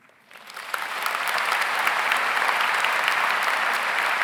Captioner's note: audience applauds